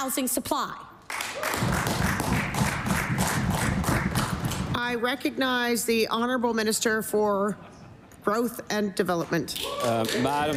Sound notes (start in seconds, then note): 9.6 some Applause